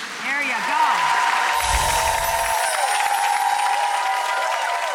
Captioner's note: applause